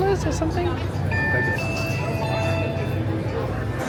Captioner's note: device chimes; people chatter